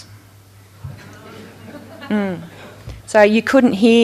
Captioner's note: audience chatters